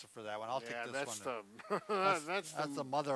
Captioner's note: laughs